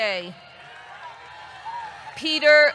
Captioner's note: audience cheering